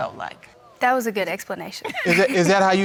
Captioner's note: laughs